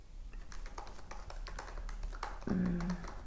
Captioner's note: keyboard clacks